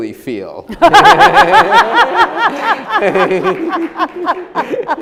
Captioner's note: everyone laughing